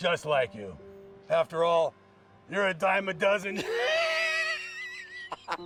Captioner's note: laughs